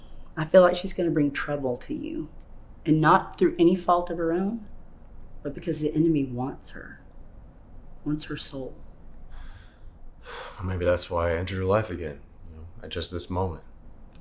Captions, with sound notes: - I feel like she's gonna bring trouble to you and not through any fault of her own, but because the enemy wants her. Wants her soul. - (Sighs) Well, maybe that's why I entered her life again. You know, at just this moment.